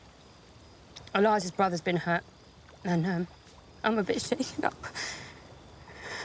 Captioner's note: tearfully